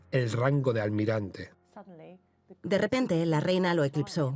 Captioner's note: voiceover